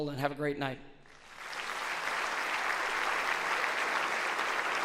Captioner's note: audience applauds